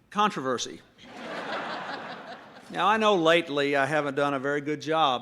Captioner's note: laughter